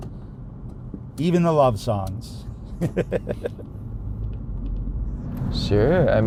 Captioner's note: laughs